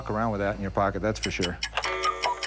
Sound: cuckoo clock

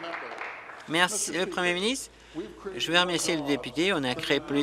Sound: applause

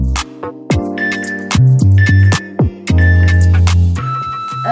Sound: timer beeping

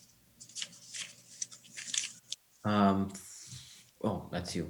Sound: papers rustling

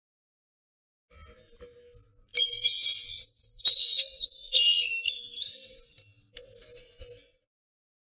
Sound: creaking glass

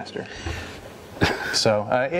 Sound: laughing softly

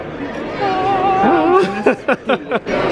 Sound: hums; laughs

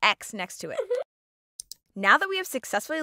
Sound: squirrel chuckles

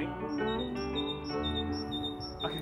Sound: birds singing

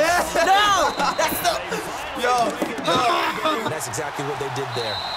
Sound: laughs; frustrated groan

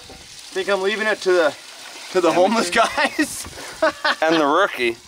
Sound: laughs

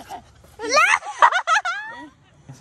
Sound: laughing

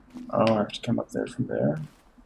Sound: none

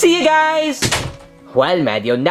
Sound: door thudding

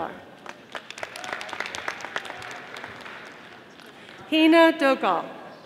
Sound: audience applauding

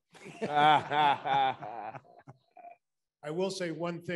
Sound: attendees laughing

